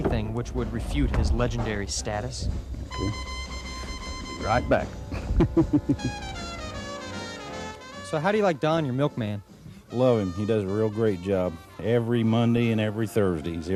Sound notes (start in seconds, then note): 2.4 lively swing music; 5.0 chuckles